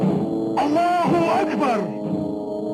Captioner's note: shouting in Arabic; dramatic music